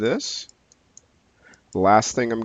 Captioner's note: mouse clicking